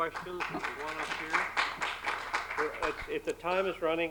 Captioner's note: applause